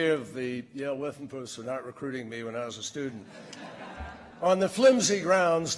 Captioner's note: laughter